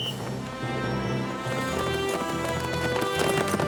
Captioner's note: whistle blows